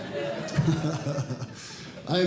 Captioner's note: audience Laughing